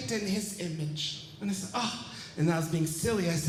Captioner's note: sighs